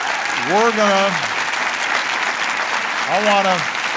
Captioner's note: applause